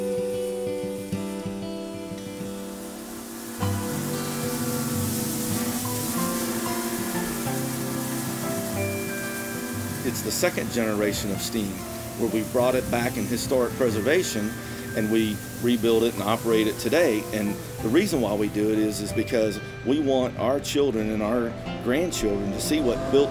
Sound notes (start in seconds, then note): 0.2 idyllic guitar music; 3.6 steam hissing; 3.6 train whistle blaring; 22.8 train whistle